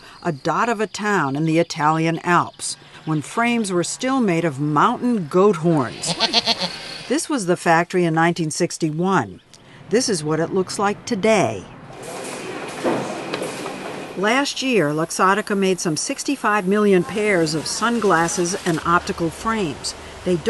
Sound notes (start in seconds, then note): 6.0 goat moaning; 12.1 machine roaring